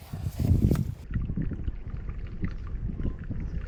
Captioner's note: water bubbling